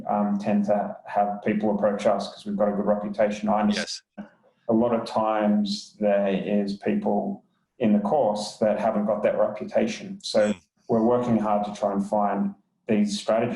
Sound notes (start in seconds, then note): 3.6 murmurs